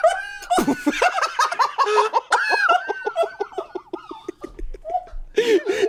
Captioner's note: laugh